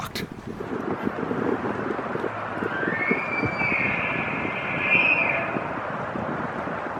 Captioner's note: bull Elk Bugle